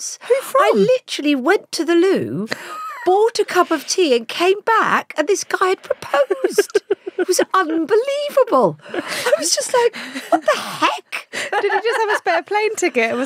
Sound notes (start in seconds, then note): 5.6 Giovanna laughs